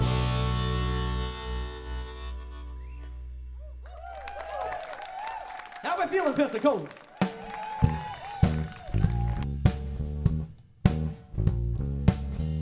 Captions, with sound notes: (Applause) How we feeling, Pensacola? (Crown cheers)